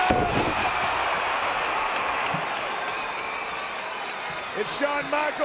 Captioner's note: audience cheering